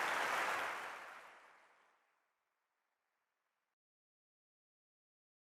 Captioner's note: applause